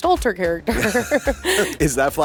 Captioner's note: laughter